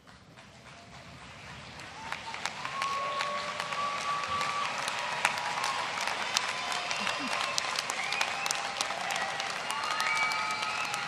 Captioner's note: cheering & applause